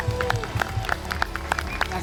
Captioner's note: clapping